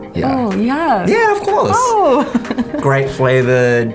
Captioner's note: laughing